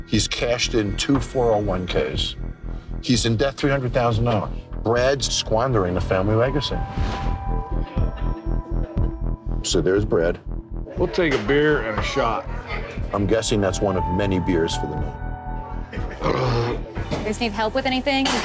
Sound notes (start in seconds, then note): 16.1 belching